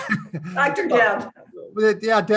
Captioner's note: chuckles